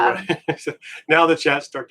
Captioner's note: laughing